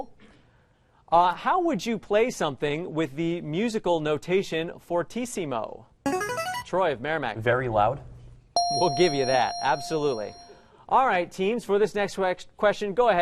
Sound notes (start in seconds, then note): 6.1 player buzzer; 8.6 ding